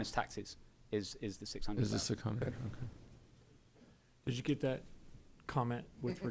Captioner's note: laughter